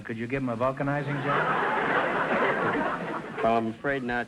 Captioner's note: audience laughter